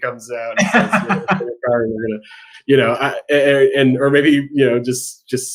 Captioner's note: laughing